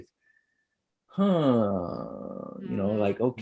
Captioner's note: gasps